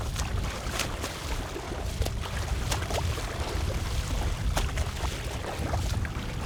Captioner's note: water splashing